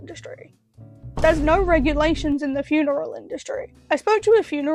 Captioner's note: boom sfx